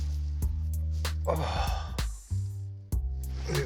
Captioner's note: jazzy bass music; exhales